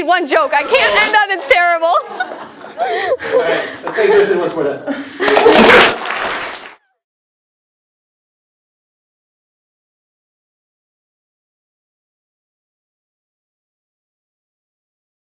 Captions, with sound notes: we need one joke, I can't end up, it's terrible. [LAUGH] >> All right, let's thank Kristen for that. >> [APPLAUSE]